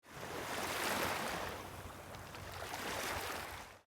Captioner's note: water lapping